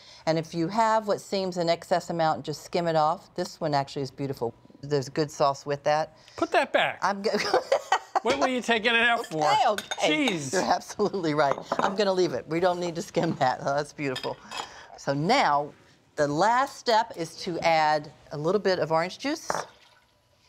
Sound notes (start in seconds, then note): 7.4 laughs